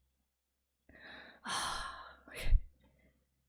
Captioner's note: relieved sigh